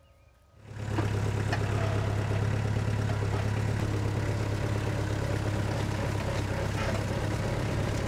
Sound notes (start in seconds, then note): 0.5 engine runs